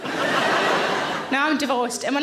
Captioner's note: audience laughs